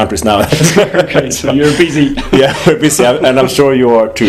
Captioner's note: laughter